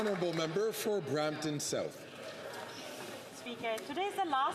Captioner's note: some Applause